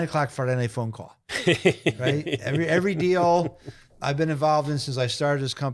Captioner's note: laughing